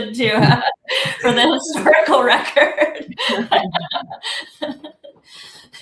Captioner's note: laughs